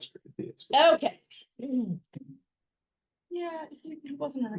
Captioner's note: people chattering